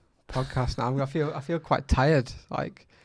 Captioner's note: laughs